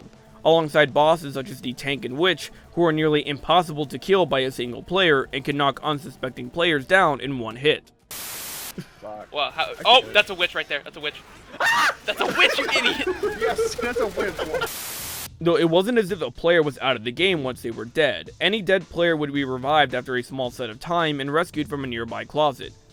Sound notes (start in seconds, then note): 11.0 players laughing; 11.5 scream